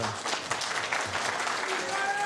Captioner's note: applause